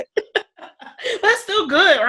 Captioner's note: laughing